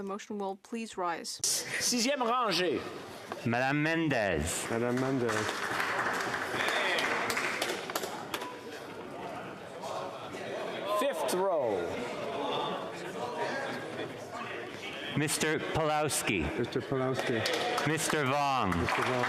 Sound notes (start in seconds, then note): 7.3 speaking French